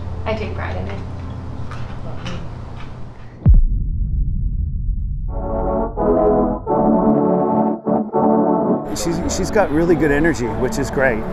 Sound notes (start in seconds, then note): 3.4 audio hit; 5.4 upbeat music